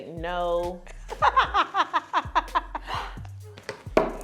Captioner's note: laughing